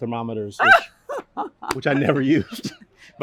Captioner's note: burst of laughter